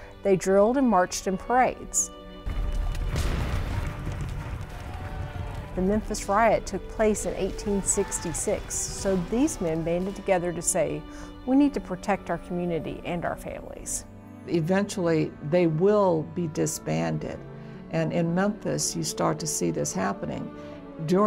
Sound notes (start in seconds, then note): 3.0 fires crackling; 4.8 people shouting faintly